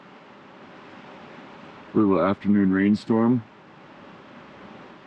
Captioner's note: water rushing